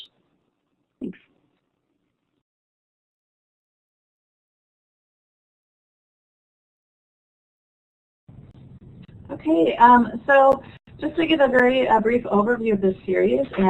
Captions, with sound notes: Thanks. [SILENCE] MODERATOR >> Okay, so just to give a very brief overview of this series.